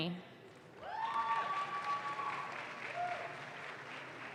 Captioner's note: audience claps